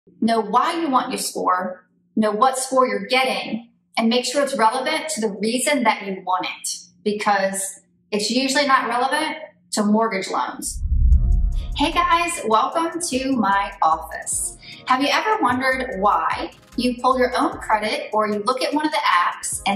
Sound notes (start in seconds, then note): 10.7 air whooshing